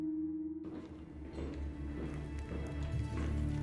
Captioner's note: distant footsteps approaching